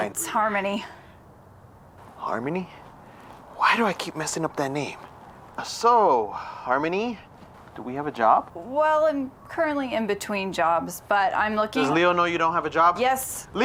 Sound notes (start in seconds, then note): none